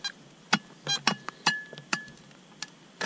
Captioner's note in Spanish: none